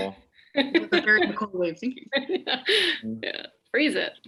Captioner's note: laughter drowns out speaker